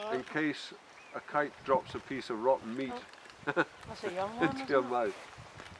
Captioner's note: laughs